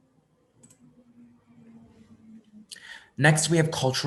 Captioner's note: mouse clicking